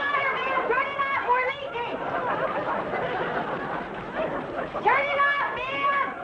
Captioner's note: audience laughing